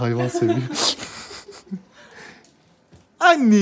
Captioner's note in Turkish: Gülüşmeler